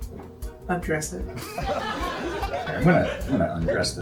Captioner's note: laughter